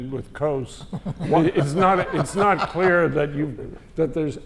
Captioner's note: laugh